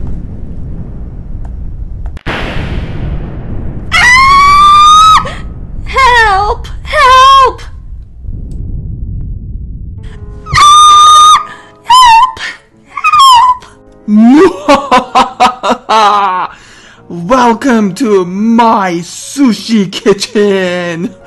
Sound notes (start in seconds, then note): 0.0 thunder and rain; 7.6 thunder and rain; 14.2 evil laugh